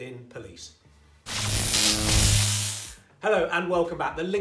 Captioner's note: electric buzz